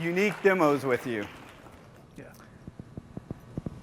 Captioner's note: applause